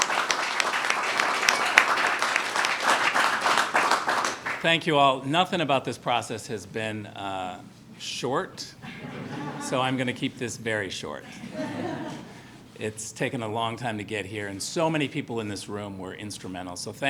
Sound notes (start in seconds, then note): 8.8 laughter